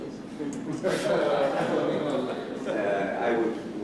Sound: laughter

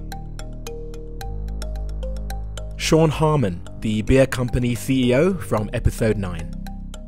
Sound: voiceover

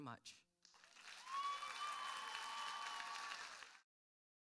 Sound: applause

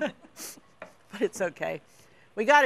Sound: both laugh

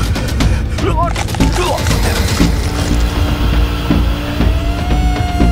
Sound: flesh squishing; sirens wailing

